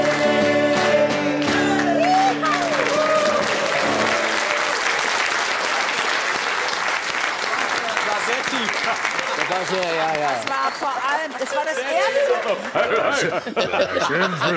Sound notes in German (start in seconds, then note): 1.4 Applaus